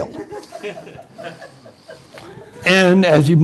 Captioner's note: laughter